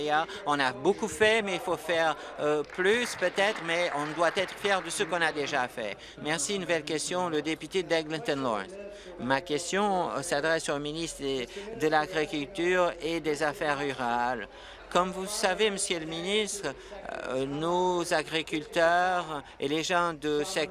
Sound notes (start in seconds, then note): 7.1 applause